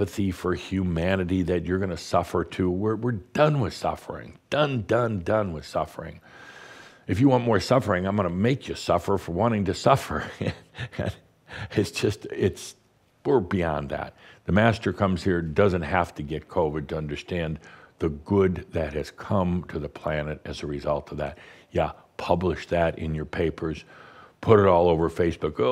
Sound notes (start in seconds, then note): 10.1 Adamus chuckles